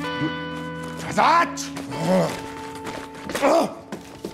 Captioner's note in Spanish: Gritos y gruñidos